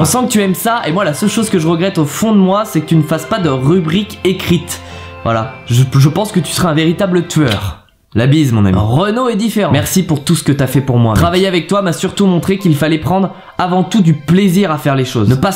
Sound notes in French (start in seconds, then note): 7.4 bruit de bisou